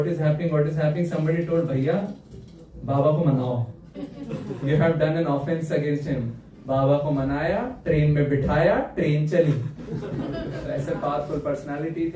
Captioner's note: clears throat